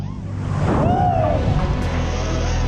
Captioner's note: snowboarder yelling